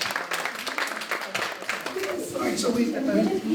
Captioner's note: applause